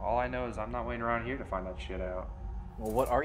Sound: scoffs

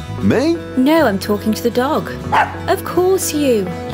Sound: bark

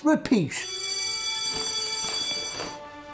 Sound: school bell rings

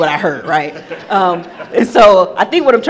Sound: attendees laughing

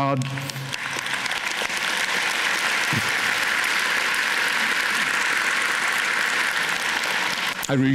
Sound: applause

